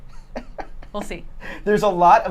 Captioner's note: laughs